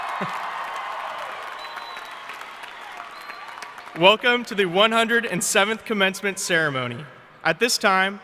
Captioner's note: cheering and applause